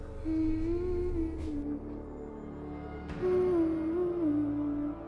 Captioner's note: person humming